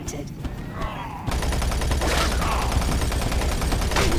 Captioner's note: gunfire